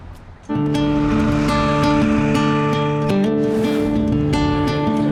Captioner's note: tractor engine